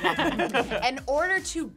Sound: laughing

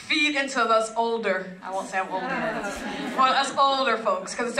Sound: laugh

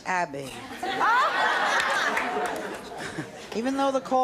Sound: laughing

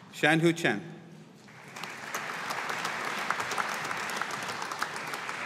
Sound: audience applauding

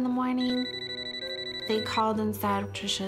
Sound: phone rings

